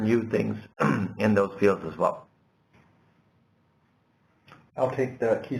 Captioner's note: cough